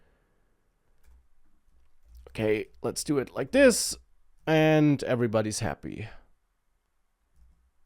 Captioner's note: none